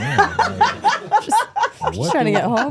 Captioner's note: Stephanie laughing